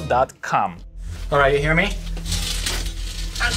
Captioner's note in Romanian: scârțâit de metal